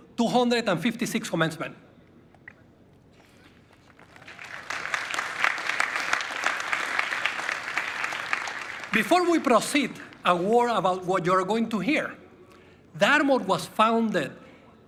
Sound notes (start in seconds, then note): 9.7 applause